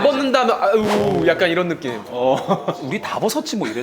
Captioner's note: boo